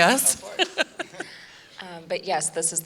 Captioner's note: laughing